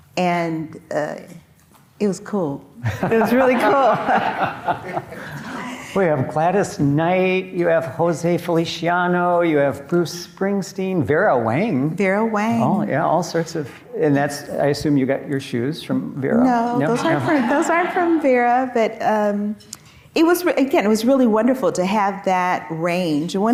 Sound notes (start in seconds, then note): 2.9 audience laughing